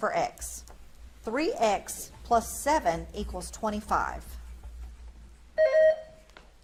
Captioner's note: buzzer beeps